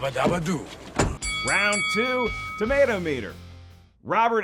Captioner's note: bell dinging